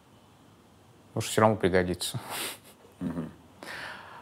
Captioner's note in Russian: смеется